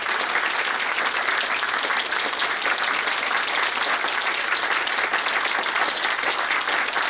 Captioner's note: audience applauding